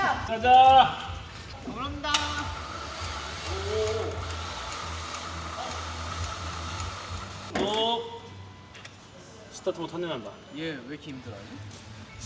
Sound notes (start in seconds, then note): 3.5 Powerful Seru motor???????? ??????Sound